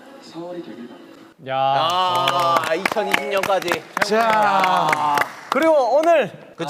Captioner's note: applause